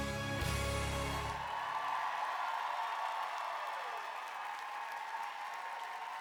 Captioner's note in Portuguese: audience cheering and applauding